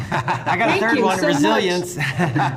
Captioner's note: all laughing